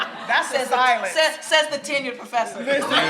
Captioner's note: everyone laughs; laughs